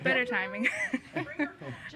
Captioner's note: laughing